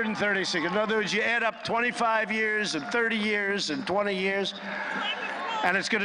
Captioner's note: applause